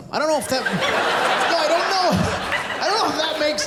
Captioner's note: laughter